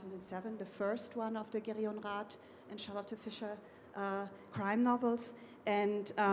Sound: speaking foreign language

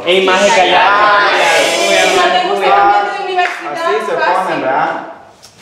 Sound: chattering and arguing

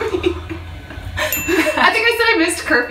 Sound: laughs; gasping; bell chiming

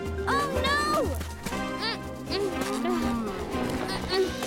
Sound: grunting

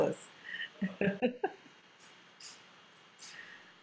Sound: laughs

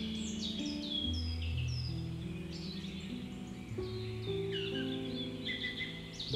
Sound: birds chirping

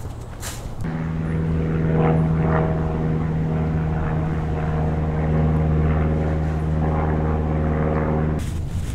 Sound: plane sound

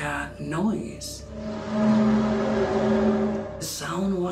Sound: eerie buzzing noise

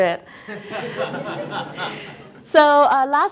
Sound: audience laughs

